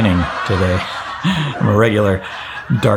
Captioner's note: laugh track laughing